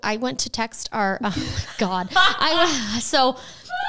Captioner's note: laughs